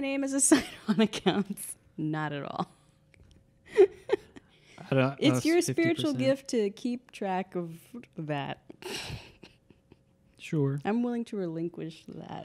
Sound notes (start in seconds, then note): 2.9 laughing; 8.9 laughing